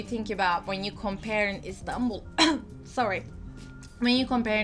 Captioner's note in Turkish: öksürük